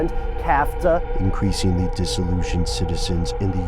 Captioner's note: voiceover